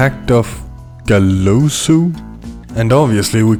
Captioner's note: mispronunciation